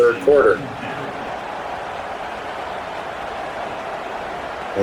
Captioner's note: crowd Noises